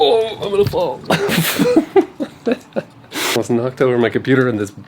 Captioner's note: laughter